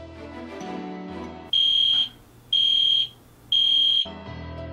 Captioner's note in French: sonnerie du détecteur de fumée